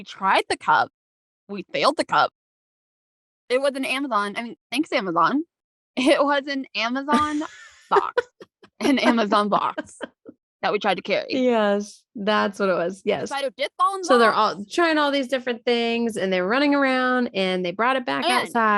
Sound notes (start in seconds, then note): 7.1 laughing